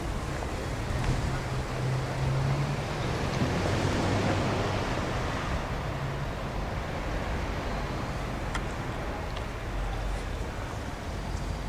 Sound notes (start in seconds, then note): 3.2 traffic Noises